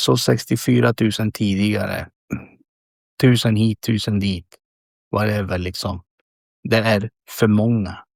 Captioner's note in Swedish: harklar sig